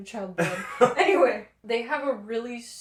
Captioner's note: laughter